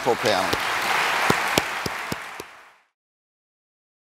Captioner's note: audience applauds